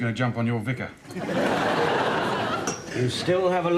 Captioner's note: audience laughs